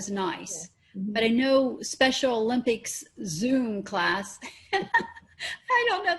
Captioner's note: laughing